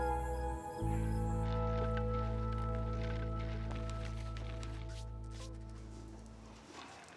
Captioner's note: cooking supplies rustling softly